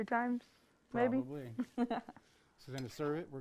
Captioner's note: laughs